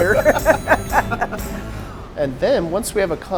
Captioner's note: laughter